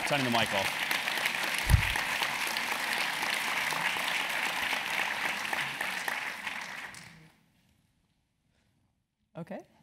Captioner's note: applause